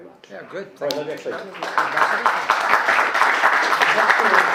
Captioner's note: applauding